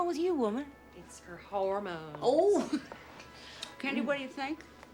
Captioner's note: chuckles